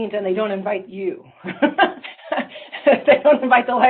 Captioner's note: laughter